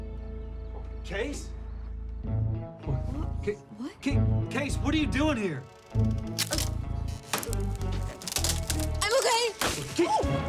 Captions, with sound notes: CASE? WHAT? CASE! WHAT ARE YOU DOING HERE? HUH? [LATTICE CRACKING] I'M OKAY! OOH--